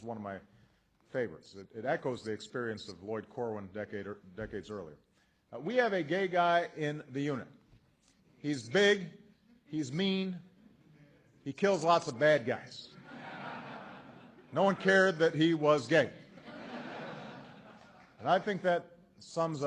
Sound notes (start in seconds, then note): 12.9 laughter; 16.1 laughter